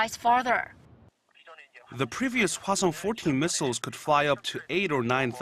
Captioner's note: Korean